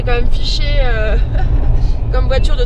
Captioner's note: laughs